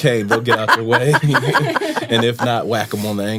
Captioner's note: laughter